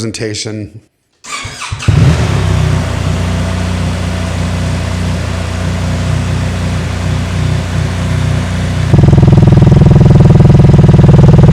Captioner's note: engine revving stock exhaust